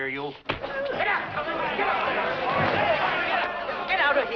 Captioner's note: shouting and clamoring